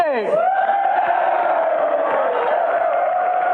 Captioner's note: audience Wooooo!